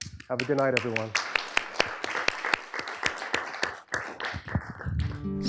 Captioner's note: applause